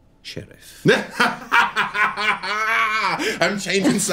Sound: laughter

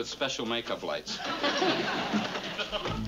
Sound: laughing

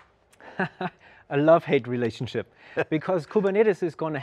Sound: laughs

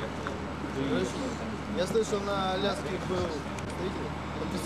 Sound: russian speech

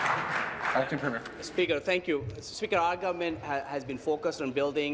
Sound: applause

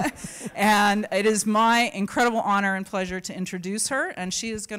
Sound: laughter

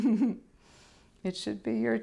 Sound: laughter

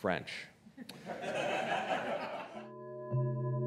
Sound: audience chuckling

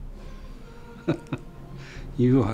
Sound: laughs

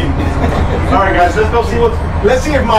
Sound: laughs

